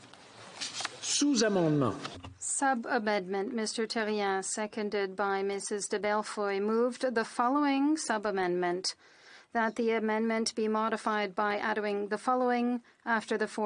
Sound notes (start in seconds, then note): 6.1 speaking French